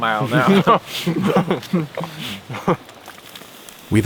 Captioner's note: both laugh